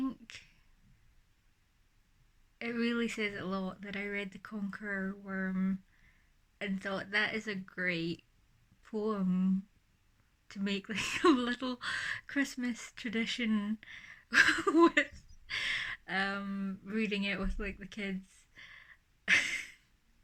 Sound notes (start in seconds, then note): 9.4 laughing; 19.3 laughs